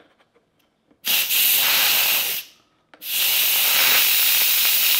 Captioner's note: steam hissing